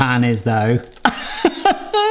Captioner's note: laughs